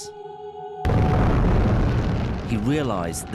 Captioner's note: explosion booming